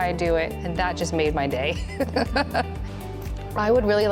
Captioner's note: laughs